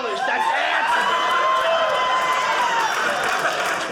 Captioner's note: audience laughing